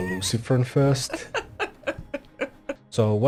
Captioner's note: Miss Bowers laughs